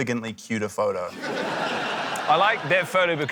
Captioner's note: laughter